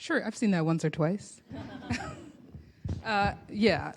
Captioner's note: laughter